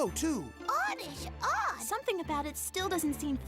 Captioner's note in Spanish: sorprendido